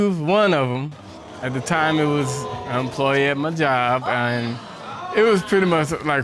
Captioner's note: audience exclaiming